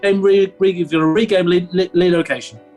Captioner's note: stammering